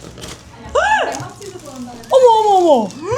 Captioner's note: gasp!